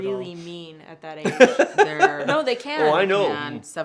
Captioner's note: laughs